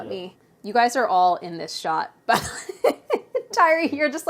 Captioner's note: laughs